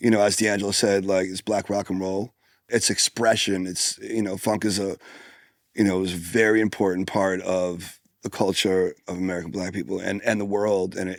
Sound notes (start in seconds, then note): none